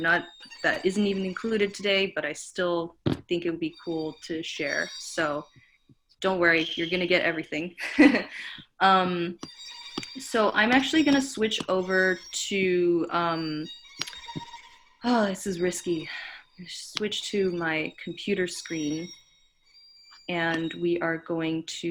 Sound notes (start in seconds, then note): 7.7 giggles